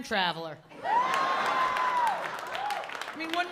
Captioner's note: laughter